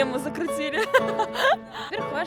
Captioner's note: laughter